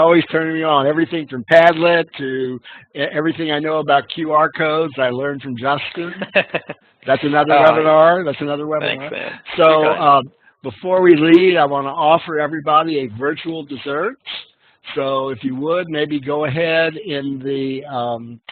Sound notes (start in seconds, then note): 6.0 laughing